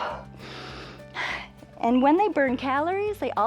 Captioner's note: inhales and exhales